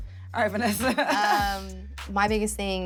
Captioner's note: laughing